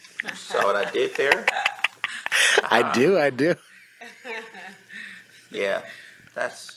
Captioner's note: laughs